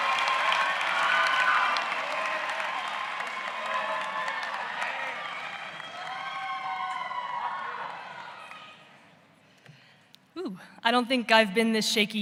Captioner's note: cheers and applause